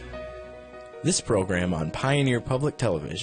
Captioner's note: voiceover